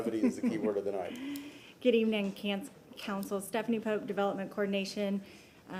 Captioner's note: laughter